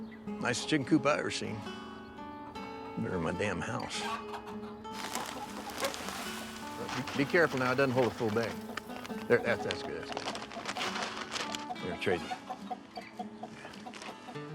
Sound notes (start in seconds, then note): 4.7 chickens clucking; 4.9 bag rustles; 13.0 chicken clucking